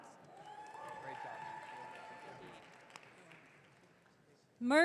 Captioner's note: audience cheering